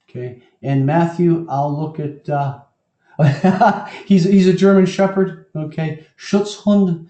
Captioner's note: laugh